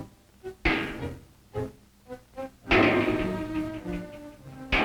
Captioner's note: loud hammering